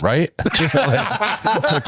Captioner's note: laughing